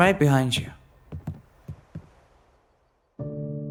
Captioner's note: footsteps; somber music